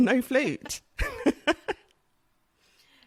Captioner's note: laughs